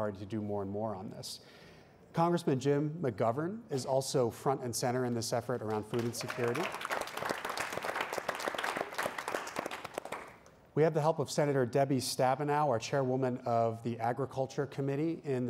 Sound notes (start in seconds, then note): 5.6 applause